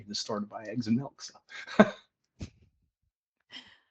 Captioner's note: laughs